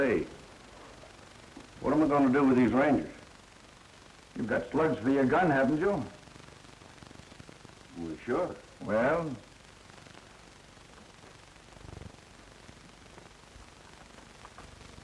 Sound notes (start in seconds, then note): none